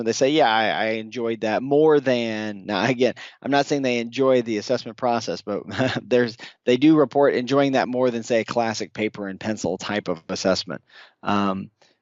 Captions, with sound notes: they say, yeah, I enjoyed that more than, now, I get it. I'm not saying they enjoy the assessment process, but (laughs) they do report enjoying that more than, say, a classic paper and pencil type of assessment.